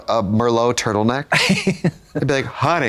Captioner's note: Katya chortles